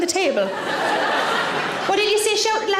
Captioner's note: audience laughing